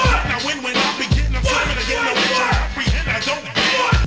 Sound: man yelling

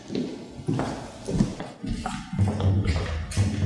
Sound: footsteps

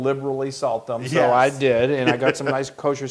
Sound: laugh

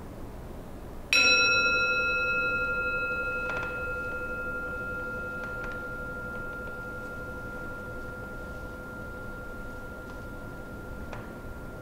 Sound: gong

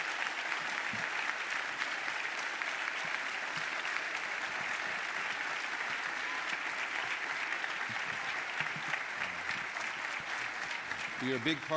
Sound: applause

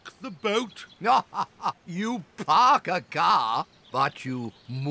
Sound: laughs

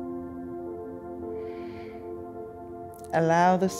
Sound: exhales

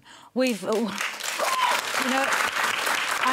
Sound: cheering and applause

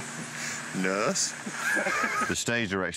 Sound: laughter

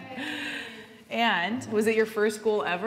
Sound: laughing

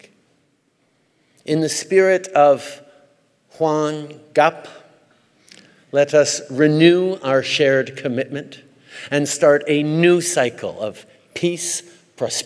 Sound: speaks Korean

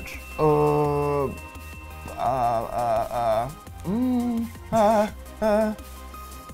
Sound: stuttering anxiously

